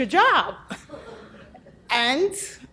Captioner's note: people laugh